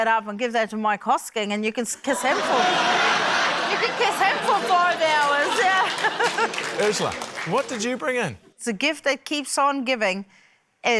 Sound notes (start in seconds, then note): 2.0 laughter; 4.3 applause